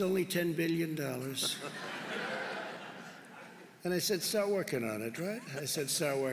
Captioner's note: laughter